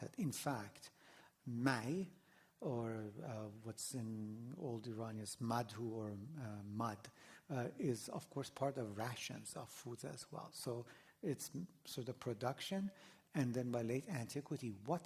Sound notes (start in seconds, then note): 5.4 non-english